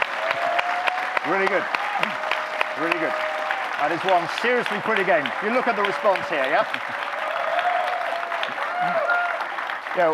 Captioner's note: audience clapping, cheering